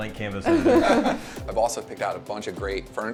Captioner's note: everyone laughing